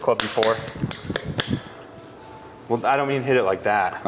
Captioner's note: hand on club-head smacking